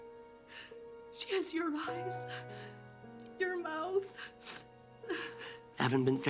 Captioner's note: sobs